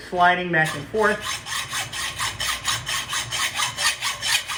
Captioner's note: sawing